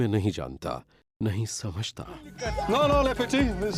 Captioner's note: speaks foreign language